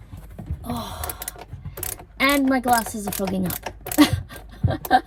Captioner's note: frustrated sigh; slightly deranged laughter